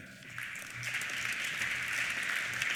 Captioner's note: applause